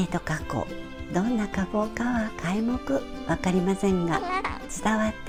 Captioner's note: laugh